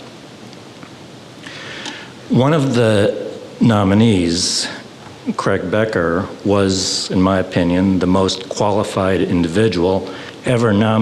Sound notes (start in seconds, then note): none